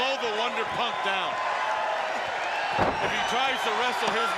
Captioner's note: crowd cheering